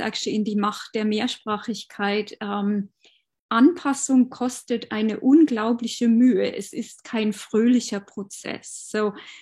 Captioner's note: speaking german